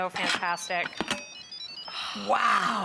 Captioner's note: machine beeps